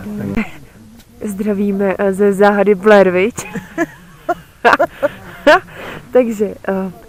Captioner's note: mum’s laughter